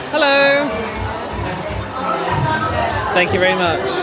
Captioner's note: crowd chattering